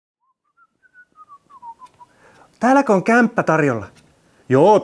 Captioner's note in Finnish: Viheltää